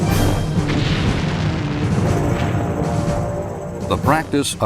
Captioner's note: building exploding